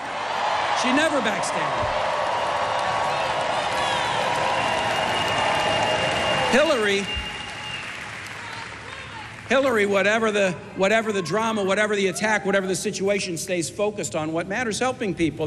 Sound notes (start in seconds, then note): 4.3 cheers and applause